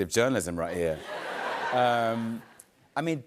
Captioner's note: laughter